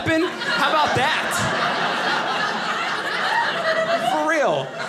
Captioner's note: audience laughing